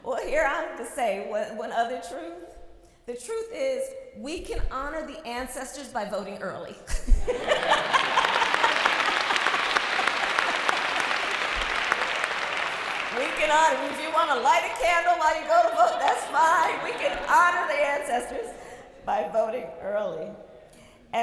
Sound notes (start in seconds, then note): 6.9 laughter, applause